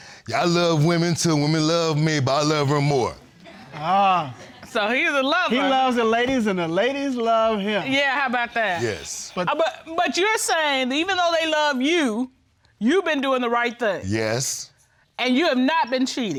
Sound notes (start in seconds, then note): 3.4 audience chuckles